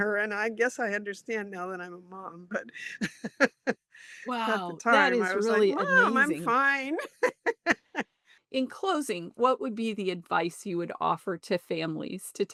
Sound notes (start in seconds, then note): 6.8 laughs